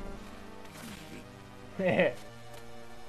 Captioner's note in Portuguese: riso sacana